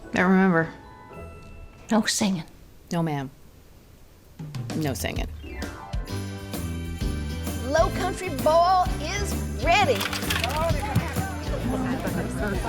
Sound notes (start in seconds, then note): 10.0 vegetables thud on table; 11.5 people chattering